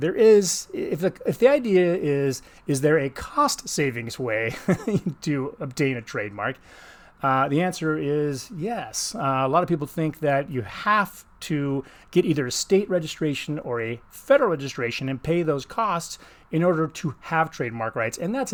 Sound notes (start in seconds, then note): 4.5 laughs